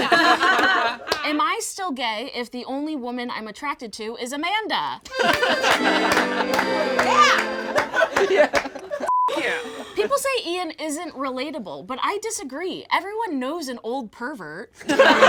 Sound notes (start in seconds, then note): 0.0 all laugh; 5.0 plays accordion; 5.0 all laugh; 9.0 beep